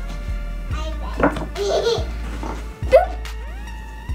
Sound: giggling

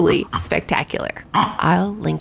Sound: multiple gastric noises

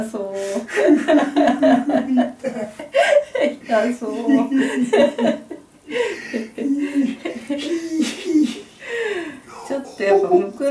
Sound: laughs

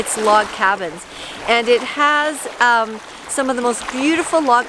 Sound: water rushing

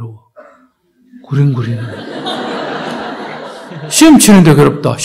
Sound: audience Laughter

